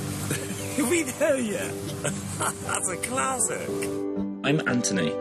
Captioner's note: laughter